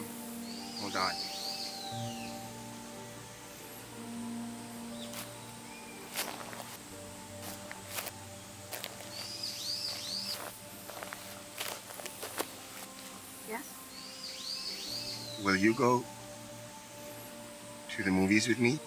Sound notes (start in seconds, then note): 2.2 slow music; 8.9 bird chirps